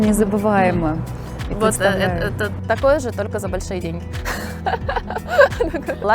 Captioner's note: laughing